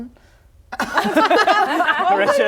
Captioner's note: laughing